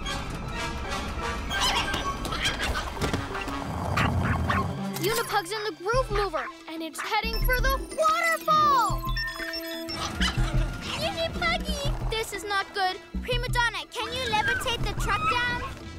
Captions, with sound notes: (Shrieks & yaps) Unipug's in the Groove Mover, and it's heading for the waterfall! - (Yapping) - Unipuggy! This is not good! Primadonna, can you levitate the truck down?